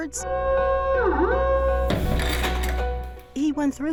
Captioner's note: siren wailing